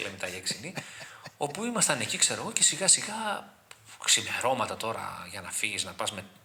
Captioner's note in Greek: γέλια